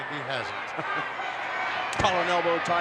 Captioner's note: chuckles